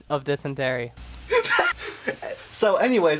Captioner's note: laughing